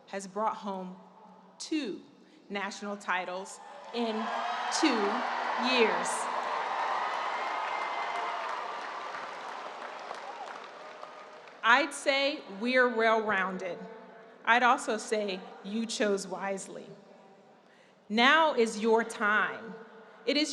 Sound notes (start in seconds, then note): 5.5 audience cheering and applause